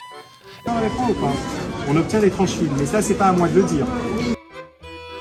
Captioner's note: seller speaking French